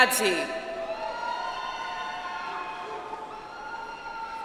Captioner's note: audience applauds